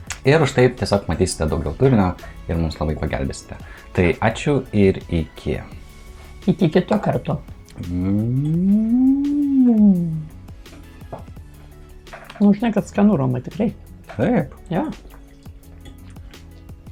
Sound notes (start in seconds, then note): 7.8 imitates jet fighter sound in Lithuanian